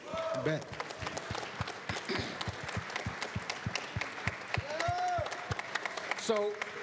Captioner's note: applause